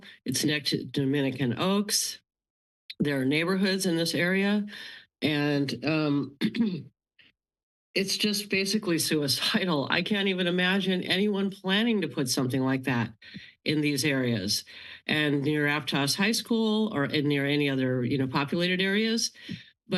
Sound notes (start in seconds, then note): 6.0 clears throat